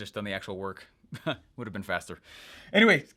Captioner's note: laughs